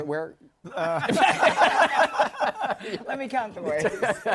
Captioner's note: laughter